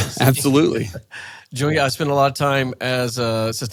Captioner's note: laughs